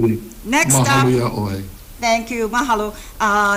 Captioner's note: speaks Hawaiian